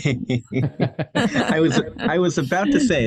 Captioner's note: laugh